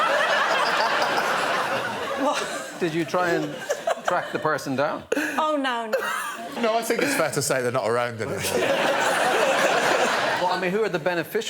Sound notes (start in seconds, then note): 0.0 laughter; 8.4 laughter